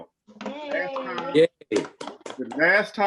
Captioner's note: cheering loudly